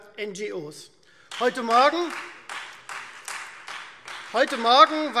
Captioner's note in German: Beifall Freie Demokraten